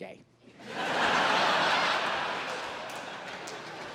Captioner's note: crowd laughs